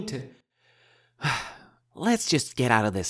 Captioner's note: sighs